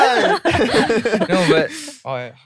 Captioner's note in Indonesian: tertawa